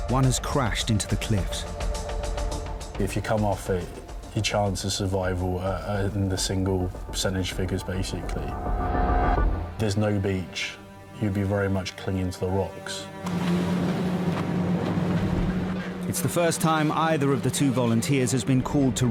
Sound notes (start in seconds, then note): 13.2 engine humming; 13.4 tense music